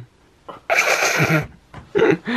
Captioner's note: laughter